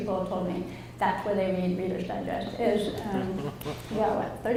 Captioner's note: audience laughs